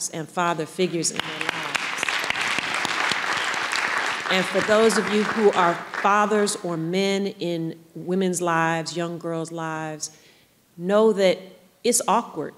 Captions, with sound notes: and father figures in their lives. (audience applauding) And for those of you who are fathers or men in women's lives, young girls lives know that it's awkward.